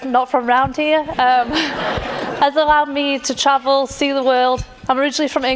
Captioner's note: laughter